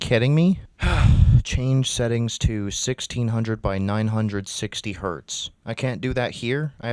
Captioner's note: sigh